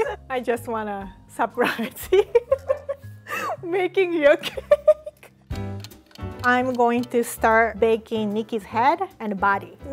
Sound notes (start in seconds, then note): 2.7 laughing; 6.4 timer ticking